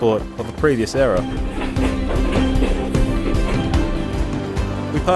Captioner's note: train rattling over tracks